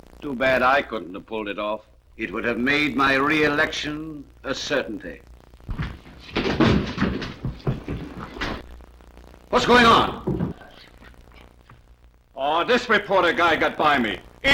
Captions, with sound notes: Too bad I couldn't have pulled it off. It would have made my re-election a certainty. [DOOR SLAMS] [STAMPEDING FEET] What's going on? Oh, this reporter guy got by me.